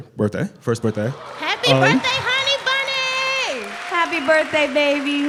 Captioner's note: applause